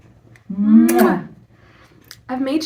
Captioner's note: kissing